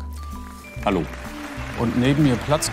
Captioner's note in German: Applaus